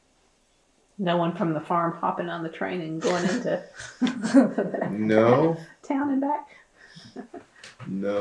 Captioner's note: laughter